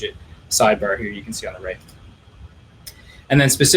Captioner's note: clicking